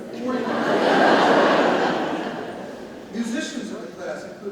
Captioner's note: audience laughs